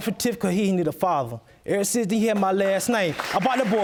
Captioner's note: audience applauding